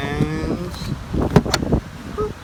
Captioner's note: click